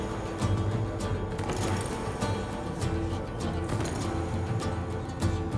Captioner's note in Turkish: At nalı sesi